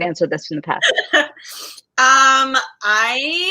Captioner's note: laughs